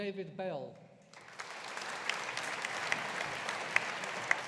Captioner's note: audience applauding